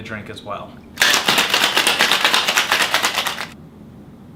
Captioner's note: ice clanking